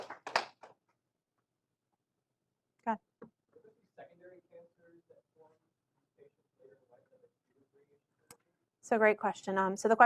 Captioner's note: applause